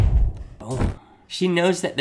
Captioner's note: exploding bomb; fire igniting